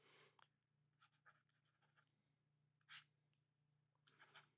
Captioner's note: pen scratching